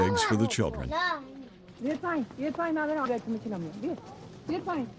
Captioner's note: speaking foreign language